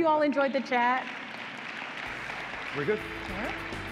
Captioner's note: audience applauding